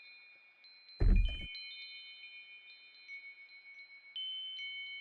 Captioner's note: door opening